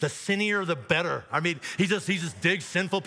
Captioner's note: audience laughs